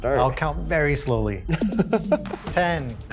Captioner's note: laughs